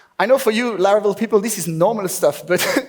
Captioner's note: laughs